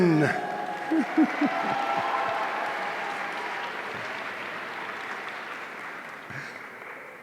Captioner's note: audience applauding; chuckles